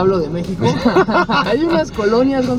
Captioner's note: laughter